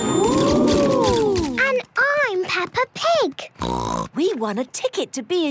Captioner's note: snort